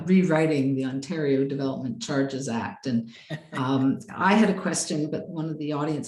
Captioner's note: laughs